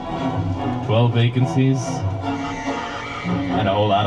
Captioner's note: woman screams